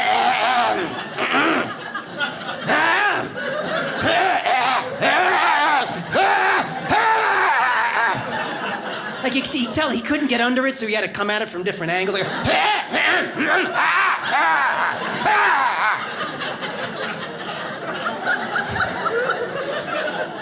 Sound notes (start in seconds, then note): 0.0 clearing throat; 12.5 clearing throat; 16.9 audience laughs